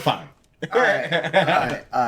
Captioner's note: laughing